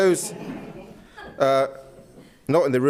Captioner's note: audience laughs